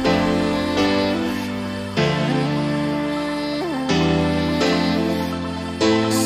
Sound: hmmmm, hmmmm

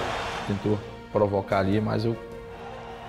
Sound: speaking Portuguese

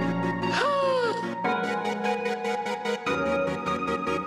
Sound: gasping

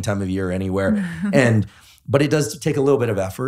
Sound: laughing

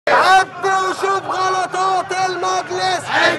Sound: chant

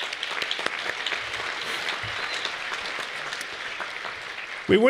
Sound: applause

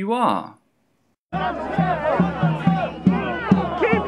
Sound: sounds of a crowd with drumming

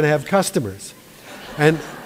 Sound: laughter

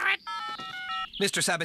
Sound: cell Phone Tones

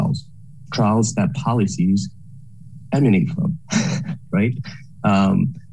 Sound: laughs

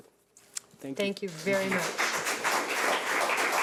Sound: audience clapping

